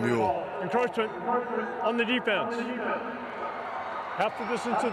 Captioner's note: fans cheer